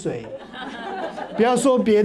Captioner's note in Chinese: 哈哈哈